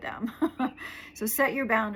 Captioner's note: laughing